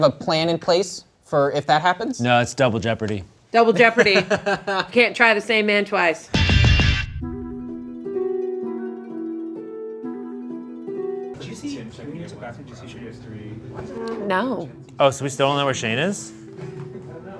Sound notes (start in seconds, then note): 3.8 laughing; 6.3 tense music; 6.3 upbeat music